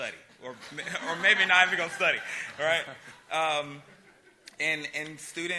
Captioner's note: laughter